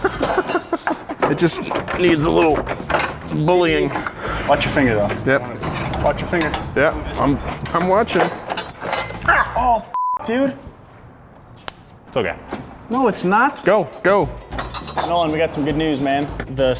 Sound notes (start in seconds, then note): 0.0 man laughing; 9.9 beep